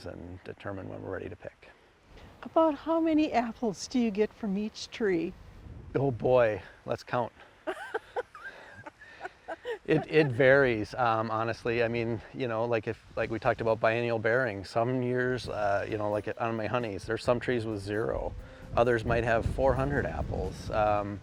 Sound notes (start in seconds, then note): 7.6 laughing